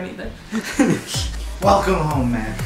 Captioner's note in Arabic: يضحك